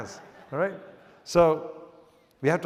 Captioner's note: audience chuckles